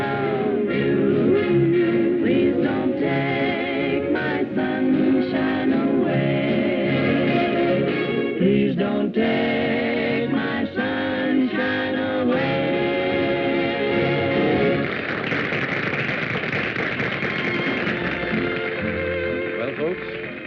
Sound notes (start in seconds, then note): 7.9 singing; 14.7 applause